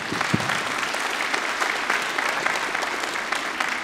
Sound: applause

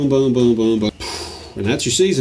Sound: sighs

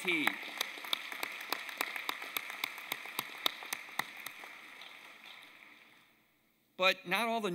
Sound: applause

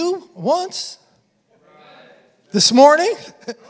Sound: congregation affirming; congregation laughing

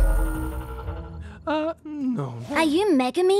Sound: muttering to self

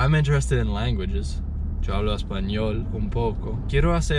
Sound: in Spanish

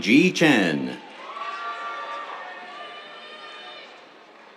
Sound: cheers

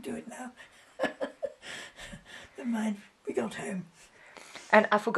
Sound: laughs

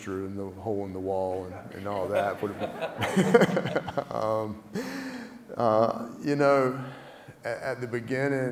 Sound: laugh

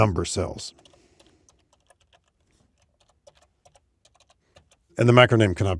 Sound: keyboard typing

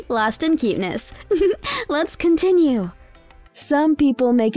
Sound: laughing

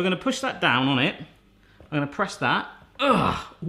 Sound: groans

